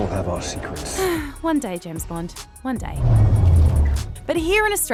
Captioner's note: sighs